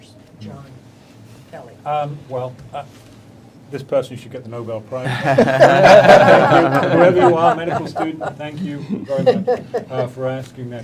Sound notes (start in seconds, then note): 5.1 panel laughing